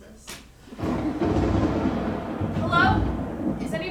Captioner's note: thunder